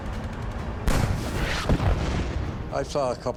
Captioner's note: shell exploding